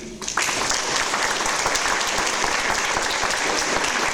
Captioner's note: audience applause